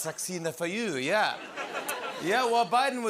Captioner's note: laughter